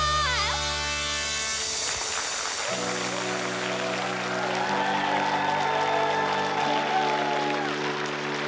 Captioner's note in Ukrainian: оплески